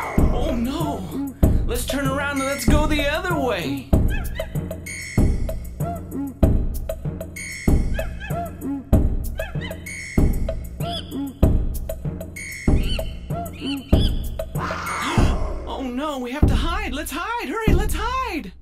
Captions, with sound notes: Oh no! Lets turn around and go the other way! *roar* Oh no we have to hide! Hurry lets hide!